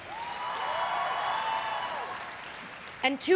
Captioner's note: everyone cheering and applauding